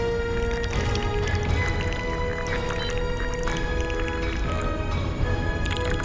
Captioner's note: talking in alien language